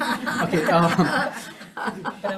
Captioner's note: people laugh